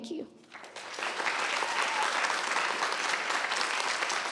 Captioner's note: audience applauds